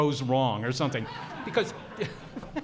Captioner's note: audience laughs